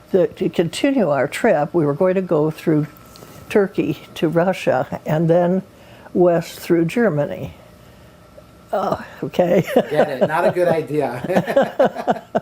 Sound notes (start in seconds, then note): 7.1 laughs; 9.4 laughter